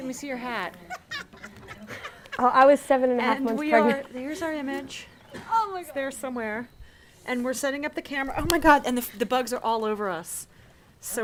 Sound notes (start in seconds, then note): 0.8 laughing